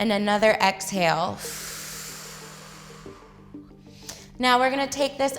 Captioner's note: exhales